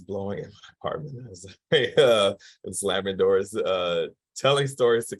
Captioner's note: chuckles